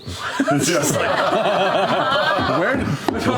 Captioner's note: laughter